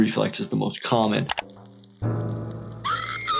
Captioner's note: grill sizzling; Petunia screaming